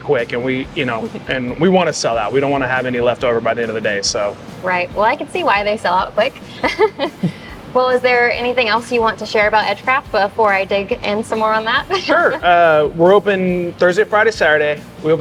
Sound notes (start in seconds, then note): 6.2 chuckling